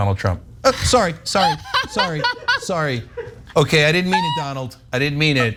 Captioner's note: laugh